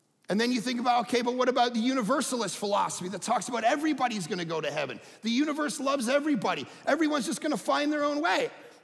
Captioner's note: none